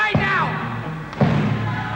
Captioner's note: audience cheering